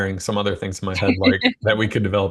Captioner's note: laughs